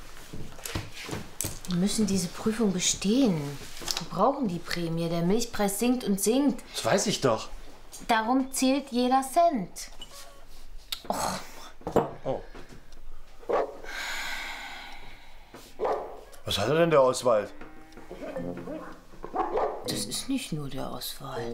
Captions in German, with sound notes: Wir müssen diese Prüfung bestehen. Wir brauchen die Prämie, der Milchpreis sinkt und sinkt. Das weiß ich doch. - Darum zählt jeder Cent. Och! - Oh! (Hund bellt.) Was hat er denn, der Oswald? Das ist nicht nur der Oswald.